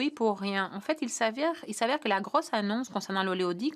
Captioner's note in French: voix de l'interprète